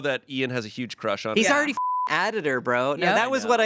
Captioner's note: beep